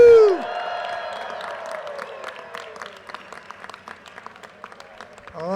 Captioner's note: audience cheers and applause